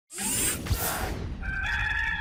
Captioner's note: logo swooshes on the screen; people cheering